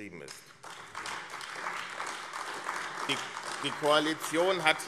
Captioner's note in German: Beifall AfD